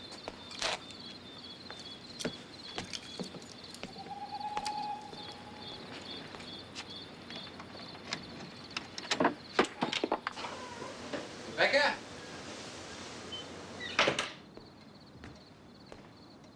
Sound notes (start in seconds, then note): 3.5 owl hoots